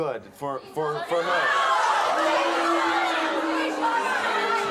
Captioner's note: crowd jeering